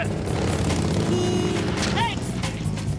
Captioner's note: car horn honks